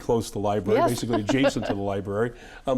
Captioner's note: laughing